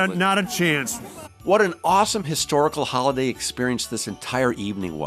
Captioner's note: all laughing